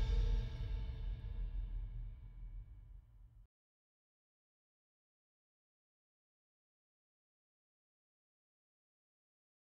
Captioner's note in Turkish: Sessizlik